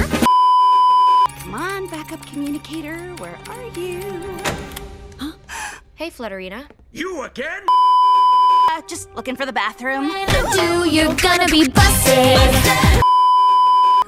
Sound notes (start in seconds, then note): 0.2 beeeeeep; 4.5 light switch noise on both sides; 5.4 gasp